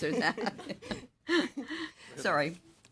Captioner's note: laughter